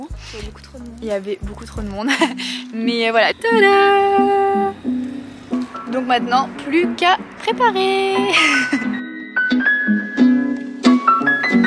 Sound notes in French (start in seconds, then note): 8.2 rire